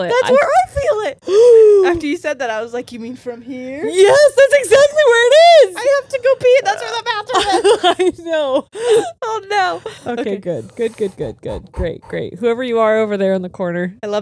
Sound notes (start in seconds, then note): 1.2 gasps